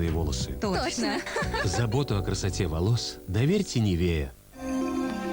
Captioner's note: laugh